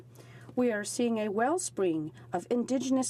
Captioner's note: speaking French